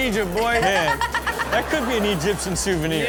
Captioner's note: crowd laughs; Chanel laughs